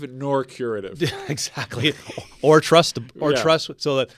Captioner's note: laughs